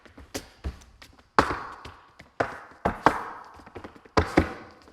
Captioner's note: shoes clacking